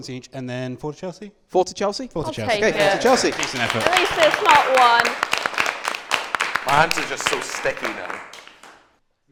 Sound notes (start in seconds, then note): 2.2 applause